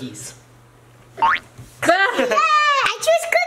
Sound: laughs

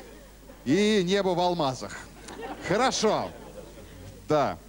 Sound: laughter

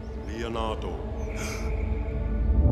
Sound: gasping

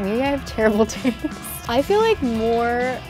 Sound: laughing

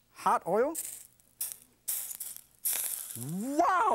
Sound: oil hisses

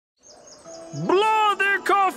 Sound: birds chirping; warm pastoral music

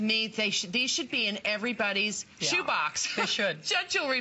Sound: laughter

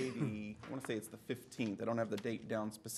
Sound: laughter

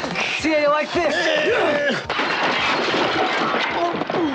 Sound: glass shattering

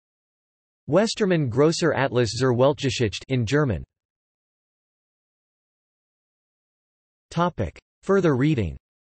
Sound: in German

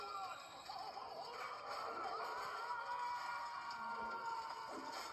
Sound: screaming

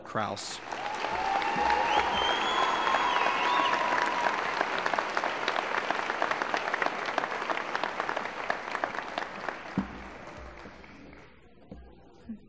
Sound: applause

